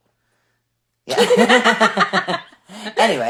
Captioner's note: laughing